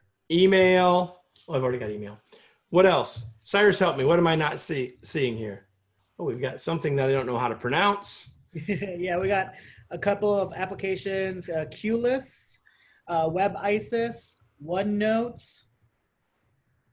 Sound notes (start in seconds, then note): 8.5 laughter